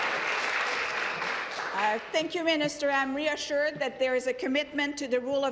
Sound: applause

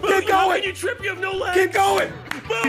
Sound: everyone screaming

